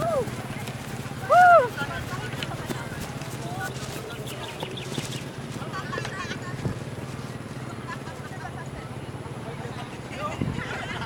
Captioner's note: other members cheering and following the kite